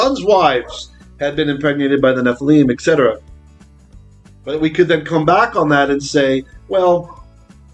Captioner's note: Hebrew